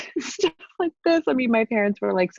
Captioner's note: laughs